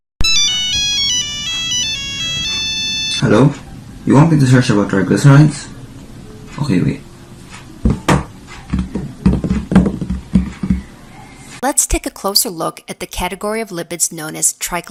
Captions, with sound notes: *Iphone call* Hello, you happened to search about Triglycerides? Okay wait *INTENSE TYPING* Let's take a closer look at the category of lipids known as triglycerides